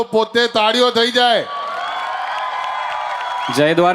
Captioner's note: crowd applauding